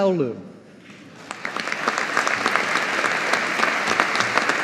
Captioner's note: audience applauding